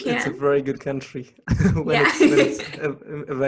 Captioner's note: laughs